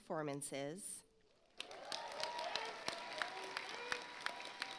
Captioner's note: audience applauds